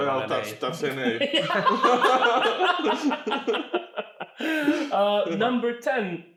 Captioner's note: all laugh